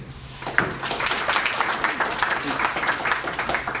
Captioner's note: applause